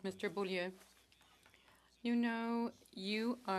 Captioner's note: speaking French